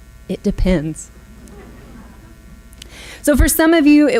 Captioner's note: audience laughs